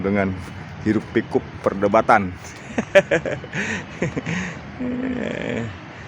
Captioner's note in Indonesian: tertawa; tertawa